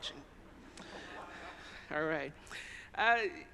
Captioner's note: audience chuckles